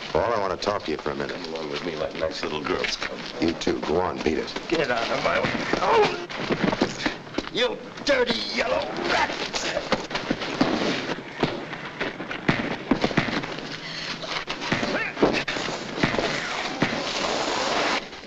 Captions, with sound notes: Paul, I want to talk to you for a minute. - Come along with me like nice little girls. - You, too, go on, beat it. - Get out of my way! (punch lands) Oh! You dirty yellow rat! (punches landing)